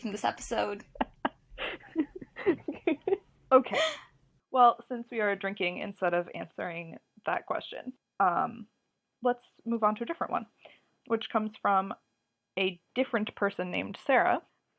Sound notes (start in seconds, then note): 0.8 laughs